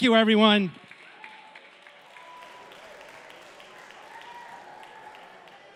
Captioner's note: cheering, applause